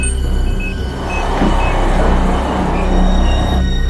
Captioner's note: beeping